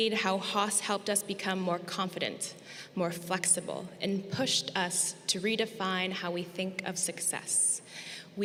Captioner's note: none